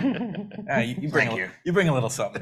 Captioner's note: panelists laugh